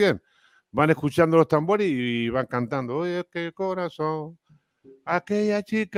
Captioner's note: Canturrea